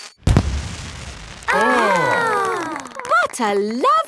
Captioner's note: exclamations